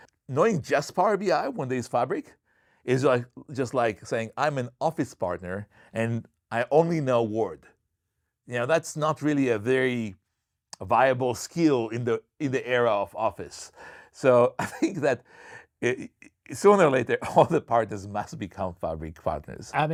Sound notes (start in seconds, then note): 14.4 chuckles